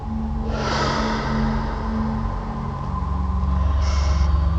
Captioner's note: deep breathing